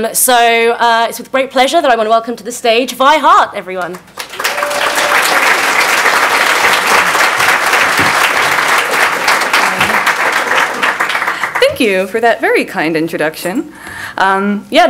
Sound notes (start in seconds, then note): 3.8 clapping